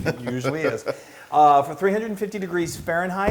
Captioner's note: laugh